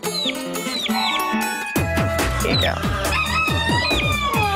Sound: crowing

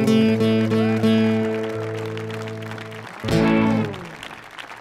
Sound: audience applauding

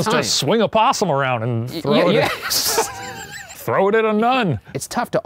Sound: laughs

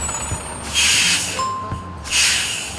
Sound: announcement bell chimes

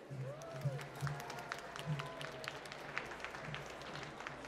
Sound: applause

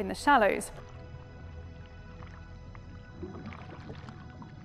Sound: water splashing

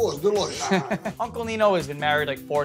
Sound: Vinny laughs

